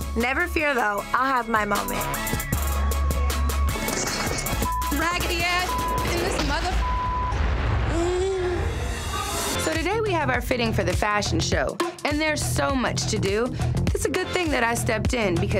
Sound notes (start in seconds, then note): 2.7 upbeat music; 4.6 beep